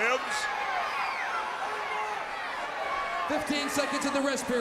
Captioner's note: crowd cheering